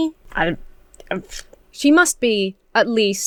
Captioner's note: splutters